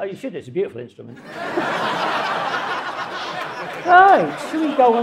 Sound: audience laughing

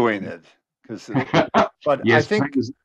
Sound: laughs

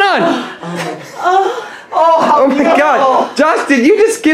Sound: moaning in pain

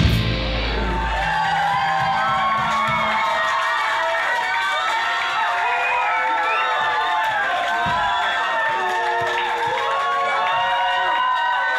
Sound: cheers

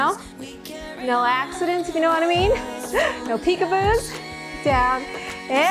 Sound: laughs

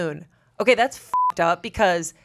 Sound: beep

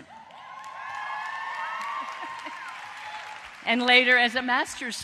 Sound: applause

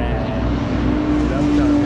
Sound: car passing

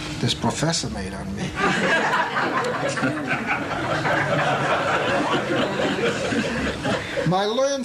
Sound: laughter

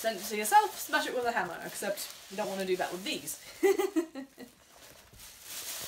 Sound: chuckle

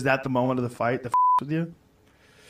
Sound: beep

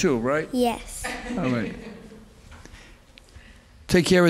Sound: laughing

